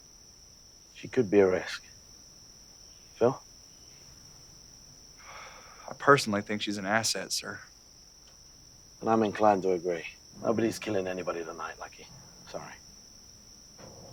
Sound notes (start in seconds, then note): none